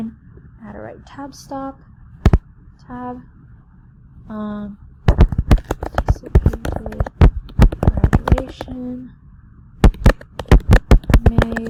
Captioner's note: typing sounds